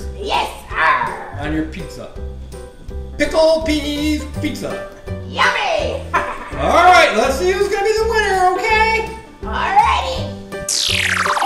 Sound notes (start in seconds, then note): 1.6 voiceover; 6.0 Hook laughs; 7.3 voiceover